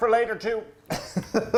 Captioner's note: laughing